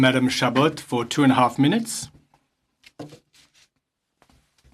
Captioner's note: speaking French